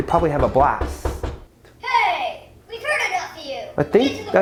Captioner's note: knock Knock Knock